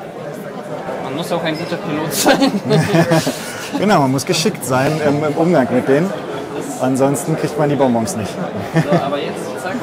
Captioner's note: laughter